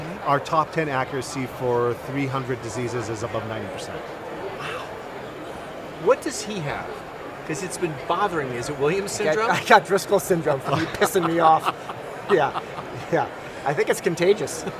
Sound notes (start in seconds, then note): 9.2 laugh; 10.4 laughs; 14.6 laugh